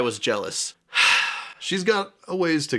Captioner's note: sigh